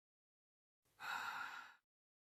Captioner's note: mountain governor painful breath